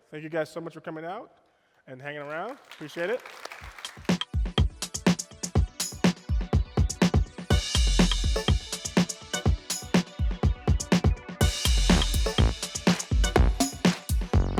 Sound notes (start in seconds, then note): 2.2 applause; 4.1 upbeat music